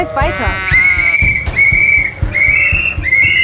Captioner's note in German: Pfeifen